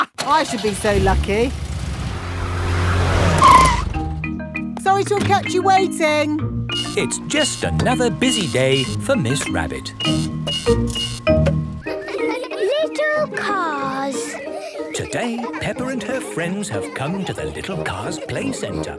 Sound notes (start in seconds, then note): 0.1 car engine starts; 3.3 brakes squeal